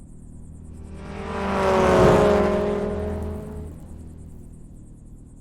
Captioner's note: car engine rumbling